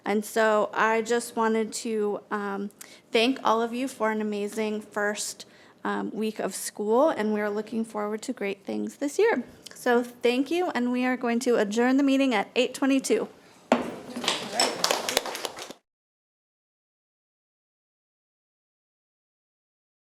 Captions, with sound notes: And so I just wanted to thank all of you for an amazing first week of school, and we are looking forward to great things this year. So, thank you, and we are going to adjourn the meeting at 8:22. (gavel banging) (light applause)